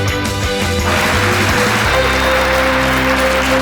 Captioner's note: clapping